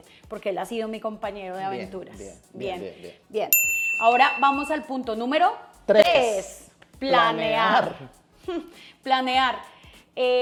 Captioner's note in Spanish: ding